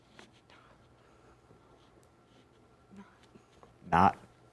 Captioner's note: students whispering